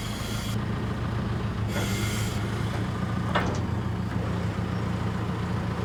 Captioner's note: engine rumbling continues